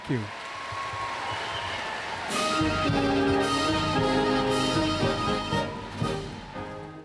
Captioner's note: applause